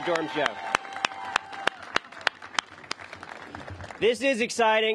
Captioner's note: cheers and applause